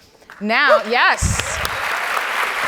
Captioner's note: audience applauds